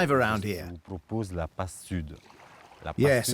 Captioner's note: speaking French